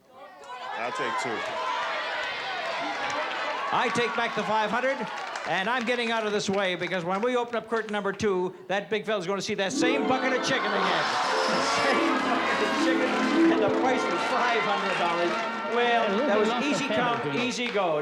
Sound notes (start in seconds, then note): 10.7 crowd groans; 14.1 wah-wah music